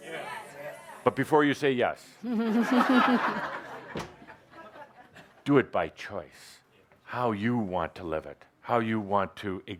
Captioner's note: laughter